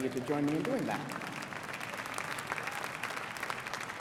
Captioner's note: applause